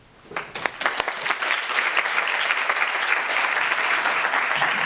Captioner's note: audience applauds